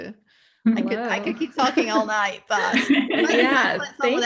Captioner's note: laughter